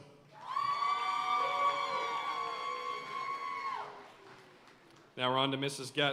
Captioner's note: audience cheering and applauding